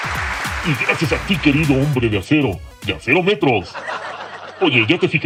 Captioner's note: joke sound